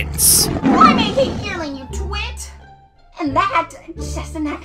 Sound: roaring

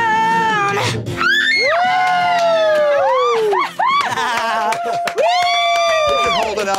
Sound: group cheering and screaming

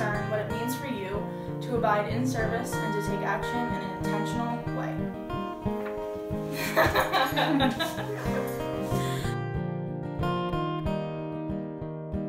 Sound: laughs

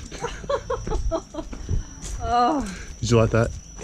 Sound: laughing

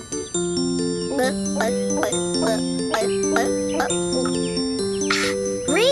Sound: gulping noises

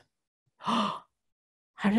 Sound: gasp

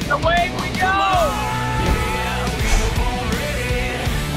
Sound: yells

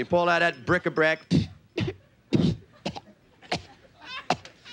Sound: coughing

